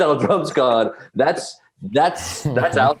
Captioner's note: Eric laughs